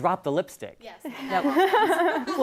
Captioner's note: laugh